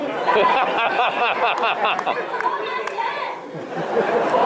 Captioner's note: laughter